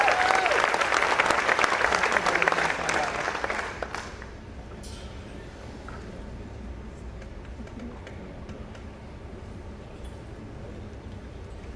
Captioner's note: applause